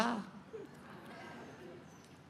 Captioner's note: laughter